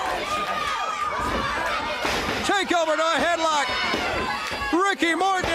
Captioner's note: crowd chatter